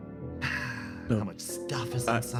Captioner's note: sigh